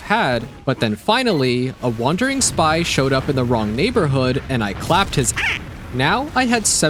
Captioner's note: squeak